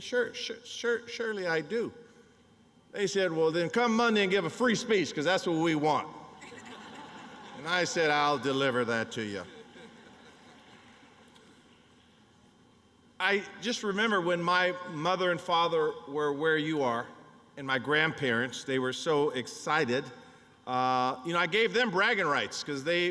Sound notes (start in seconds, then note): 9.3 laughter